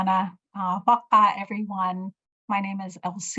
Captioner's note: speaking in Native language